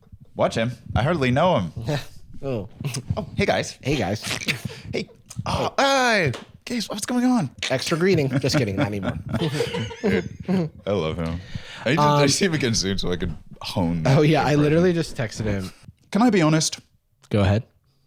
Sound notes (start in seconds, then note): 7.7 chuckling